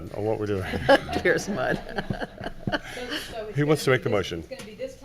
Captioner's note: laughing